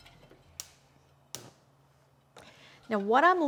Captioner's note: igniter flicking